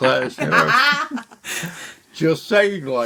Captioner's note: laughter